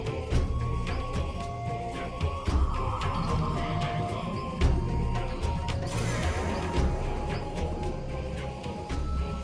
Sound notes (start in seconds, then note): 2.9 air whooshing